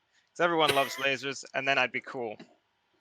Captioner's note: laughs